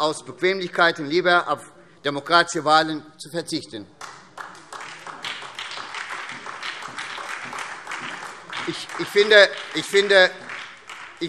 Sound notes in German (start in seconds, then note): 4.0 Beifall SPD